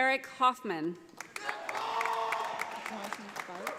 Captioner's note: audience applauding